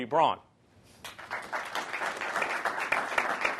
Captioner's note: applause